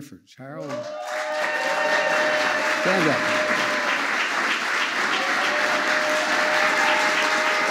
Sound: applause

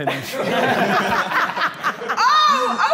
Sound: all laughing

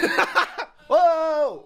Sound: laughs

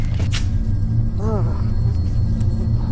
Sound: groan

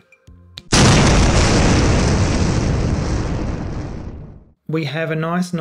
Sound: loud explosion

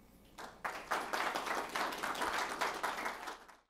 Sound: audience applauding

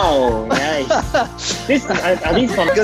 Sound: more Laughter

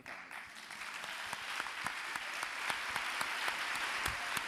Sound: audience applauding

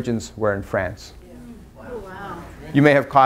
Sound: audience murmurs

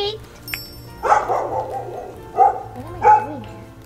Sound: sparkling; dog barking

